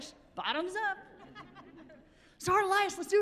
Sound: chuckling

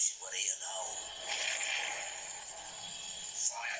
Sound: explosion in the distance

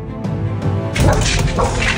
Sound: woof woof

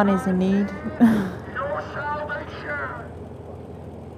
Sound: laughs; on a megaphone

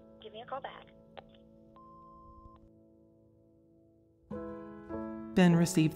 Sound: phone clicks and beeps

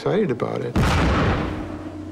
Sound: boom

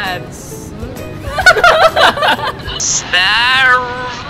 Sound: laughing

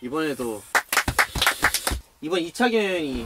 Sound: random applause

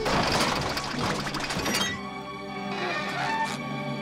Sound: creaking

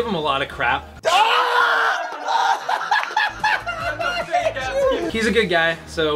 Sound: howling in pain

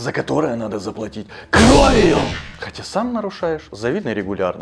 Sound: argument& swearing

